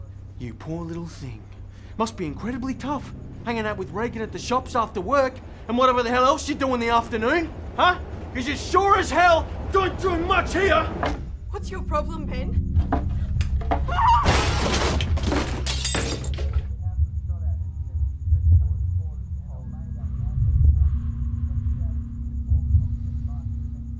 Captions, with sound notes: You poor little thing. Must be incredibly tough hanging out with Reagan at the shops after work and whatever the hell else you do in the afternoon. Huh? ‘Cause you sure as hell don’t do much here! What’s your problem, Ben? (SCREAMS) (SMASHING GLASS) (TV CONTINUES TO PLAY SOFTLY)